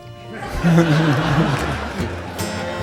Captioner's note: audience laughing